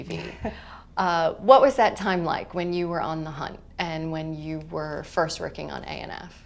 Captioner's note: chuckle